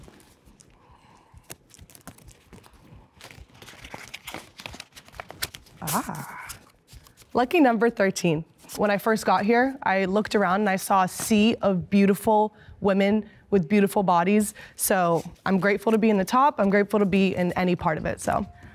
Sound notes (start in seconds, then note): 3.0 paper rustling